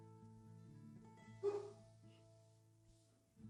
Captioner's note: dog bark